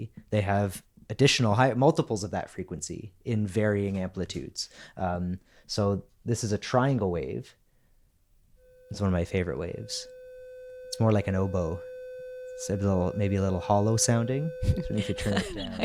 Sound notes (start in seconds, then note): 8.7 tone playing